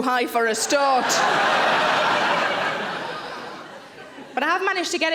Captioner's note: audience laughs